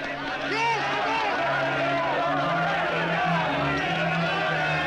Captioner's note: men shouting; dramatic orchestral music